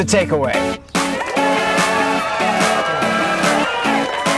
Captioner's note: crowd cheering